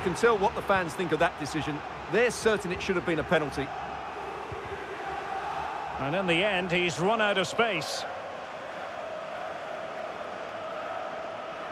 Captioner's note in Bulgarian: аплодисменти